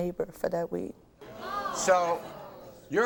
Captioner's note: audience groans